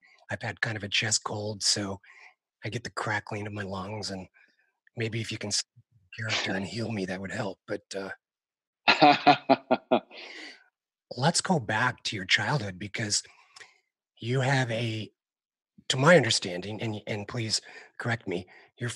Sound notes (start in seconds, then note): 8.8 Jonathan laughs